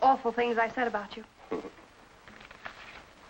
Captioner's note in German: lacht